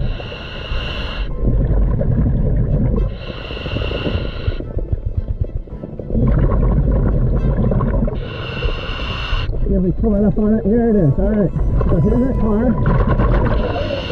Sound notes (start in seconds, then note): 0.0 breaths in; 6.6 water bubbles